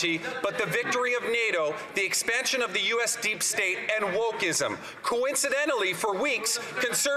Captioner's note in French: voix de l'interprète